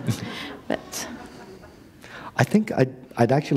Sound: laughter

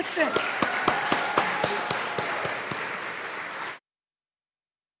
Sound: audience applauding

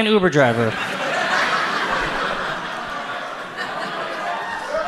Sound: audience laughs

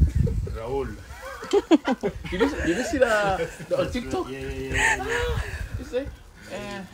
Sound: laughs

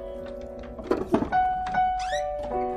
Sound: thud

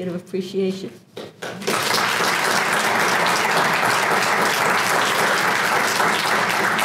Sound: applause

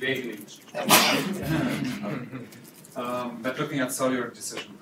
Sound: laughter

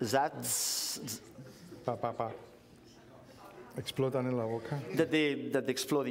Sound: speaking catalan

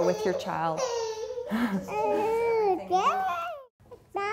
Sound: baby cooing

